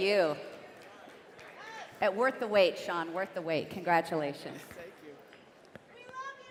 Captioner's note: applause